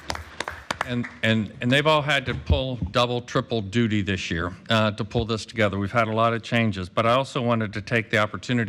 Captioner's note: applause